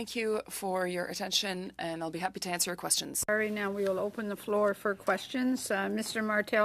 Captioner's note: speaking French